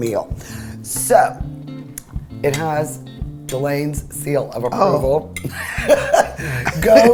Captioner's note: laughs